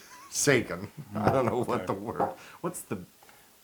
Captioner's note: laugh